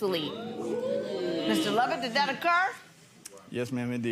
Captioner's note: audience oohs